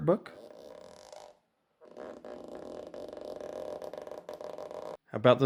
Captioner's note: annoying squeking sound